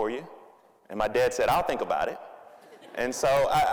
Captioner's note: audience laughing